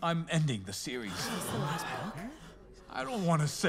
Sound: nervous whispering; crowd gasps

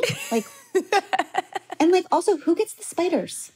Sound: laughs

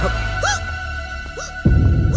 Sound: hiccups

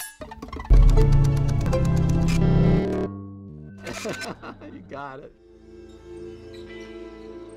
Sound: laughs

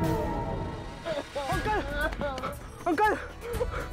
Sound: sobbing

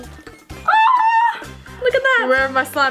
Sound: screaming

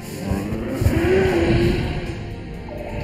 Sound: dinosaurs growl

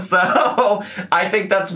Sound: laughing

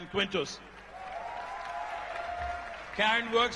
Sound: applause

